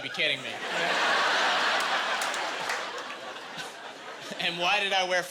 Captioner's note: laughing